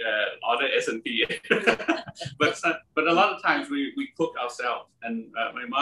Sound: laugh

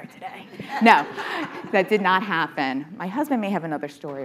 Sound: audience laughing

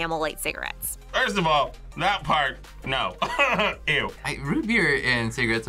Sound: laughs

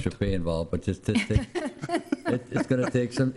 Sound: laughter

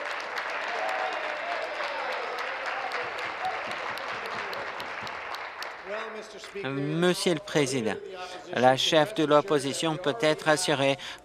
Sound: applause

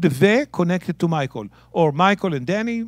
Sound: speaking in Hebrew

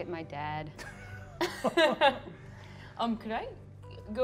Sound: laugh

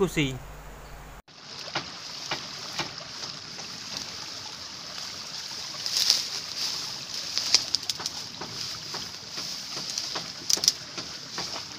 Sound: water sound

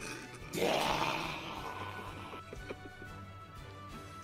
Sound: muffled laughter

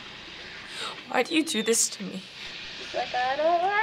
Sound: monkey squeaking; gasping

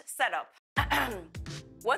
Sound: clears throat

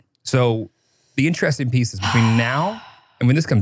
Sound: sighs

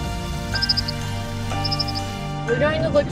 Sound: bird call

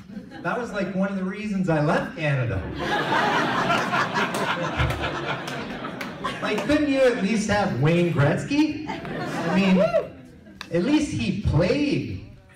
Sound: cheering

